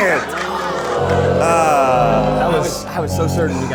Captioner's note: audience booing; audience laughing